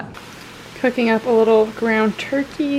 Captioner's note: pan sizzling